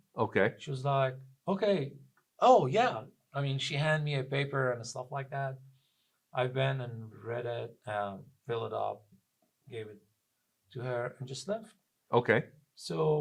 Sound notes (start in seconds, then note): none